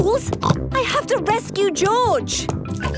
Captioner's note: snorts